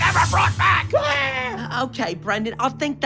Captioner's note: screaming